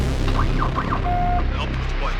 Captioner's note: radio whines and crackles